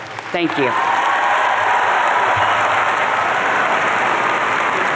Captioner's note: audience cheering